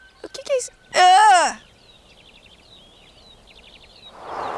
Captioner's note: birds